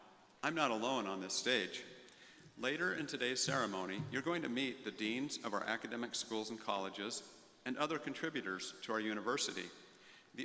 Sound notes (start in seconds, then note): none